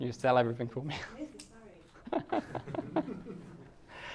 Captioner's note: laughing